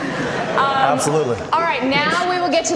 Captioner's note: audience laughter